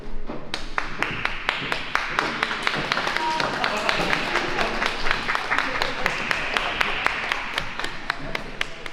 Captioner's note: applause